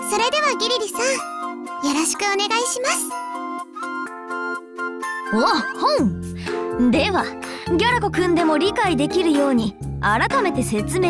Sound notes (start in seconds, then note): none